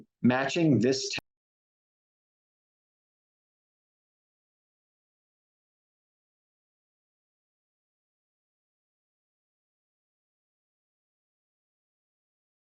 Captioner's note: silence